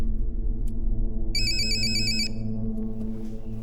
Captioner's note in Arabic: يستمر الرنين